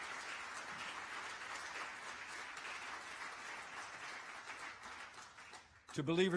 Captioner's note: applause